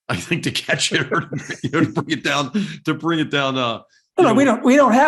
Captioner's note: laugh